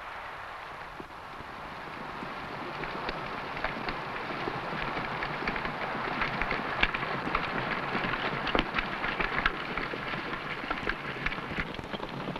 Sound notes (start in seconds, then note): 1.6 horse hooves pattering